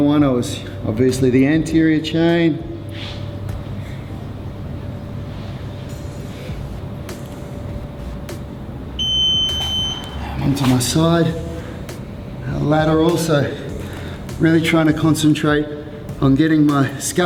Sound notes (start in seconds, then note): 8.2 beeping